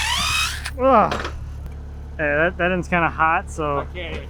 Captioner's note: groans